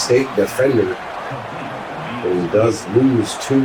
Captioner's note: crowd Noises